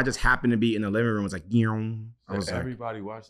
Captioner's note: impersonates electronic sound